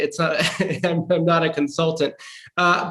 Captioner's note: laughs